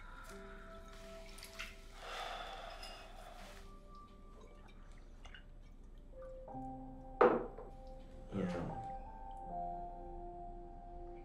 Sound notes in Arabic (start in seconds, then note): 2.0 تنهد